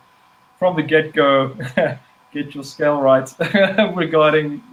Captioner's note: giggling